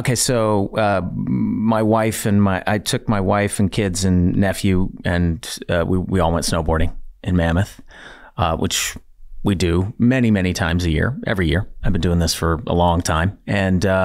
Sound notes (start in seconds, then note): none